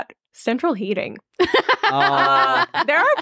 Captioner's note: laughing